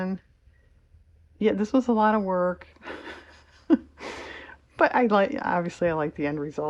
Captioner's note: laughs